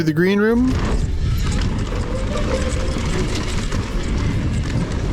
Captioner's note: bike scraping